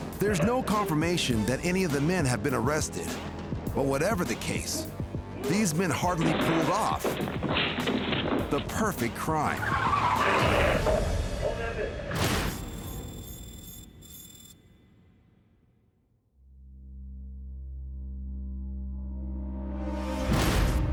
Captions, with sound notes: There's no confirmation that any of the men have been arrested. But whatever the case, these men hardly pulled off the perfect crime. (tires squealing) (door breaking) (soft ominous music)